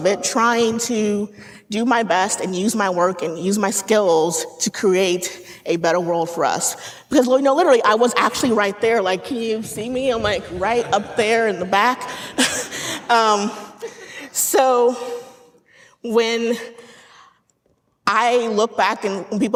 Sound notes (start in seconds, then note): 13.5 laughing